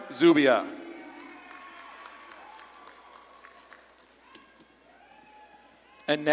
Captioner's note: audience claps and cheers